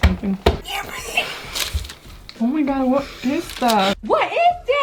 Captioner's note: distressed sounds